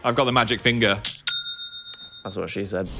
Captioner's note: cash register dings